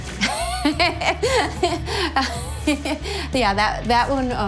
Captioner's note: laughs